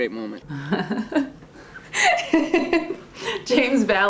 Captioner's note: actress laughs